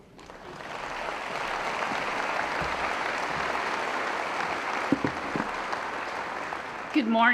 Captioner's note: applause